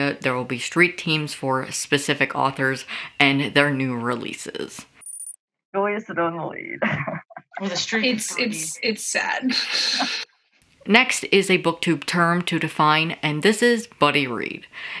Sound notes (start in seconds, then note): 6.7 laughing